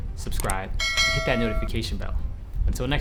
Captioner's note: bell dings